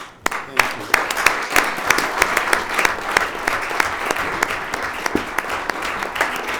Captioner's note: audience applauds